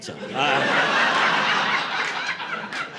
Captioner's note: laughter